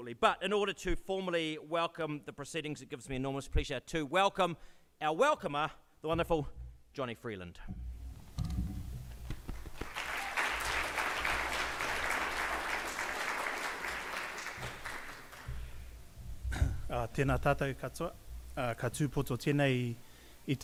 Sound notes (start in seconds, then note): 9.2 audience claps; 17.3 speaks in Maori